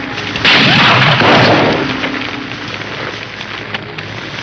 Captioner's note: gunshots blasting